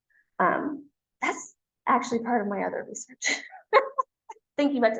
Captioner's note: laughs